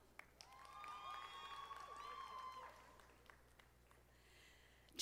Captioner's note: audience applauding